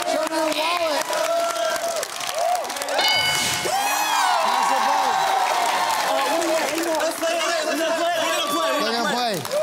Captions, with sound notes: Show me your wallet. [Bell dings] Pass or play? [Family clamouring] They're going to play.